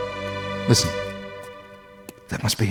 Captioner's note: footsteps